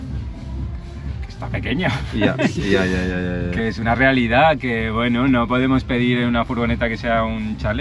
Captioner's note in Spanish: risas